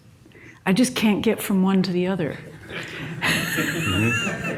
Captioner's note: audience laughs; laughs